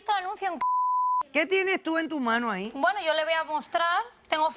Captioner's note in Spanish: Bip